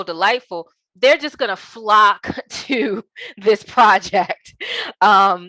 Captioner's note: laughing